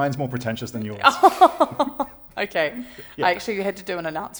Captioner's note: laughter